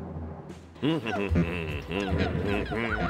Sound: hums

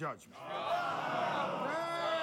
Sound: crowd scoffs

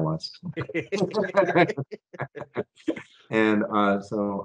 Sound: both laughing

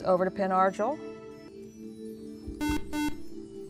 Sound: buzzer

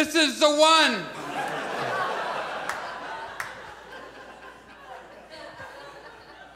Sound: audience laughs

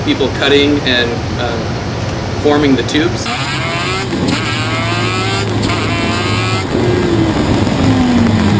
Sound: car races

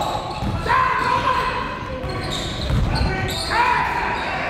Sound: coaches yelling

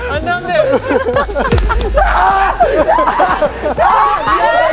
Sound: roaring

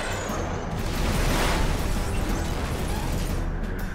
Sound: booming

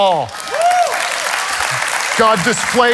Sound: congregation claps

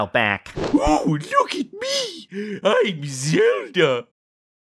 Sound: in a "girly" voice

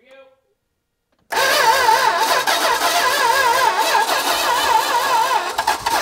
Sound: ignition stuttering

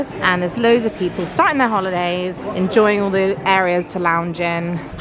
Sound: none

